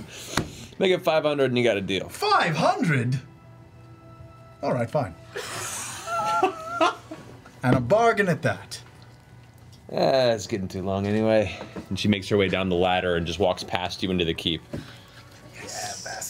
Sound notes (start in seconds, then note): 5.4 all laugh